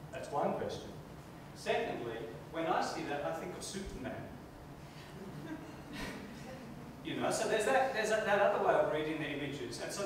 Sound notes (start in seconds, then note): 5.0 chuckling